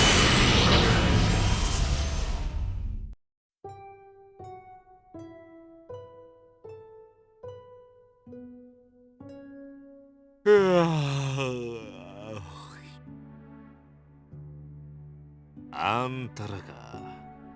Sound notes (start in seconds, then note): 10.4 yawn; 13.9 silence